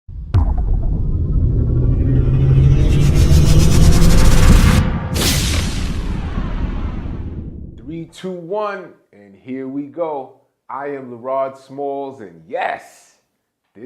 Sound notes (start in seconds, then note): 1.9 electronic whirring; 5.4 whooshes